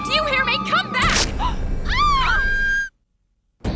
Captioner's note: screams